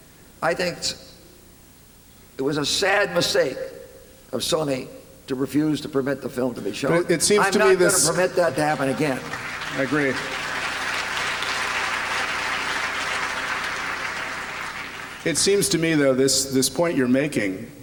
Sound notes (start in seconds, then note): 10.6 applause